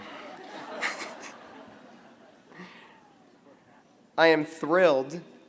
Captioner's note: laughter